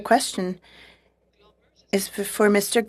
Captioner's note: speaking French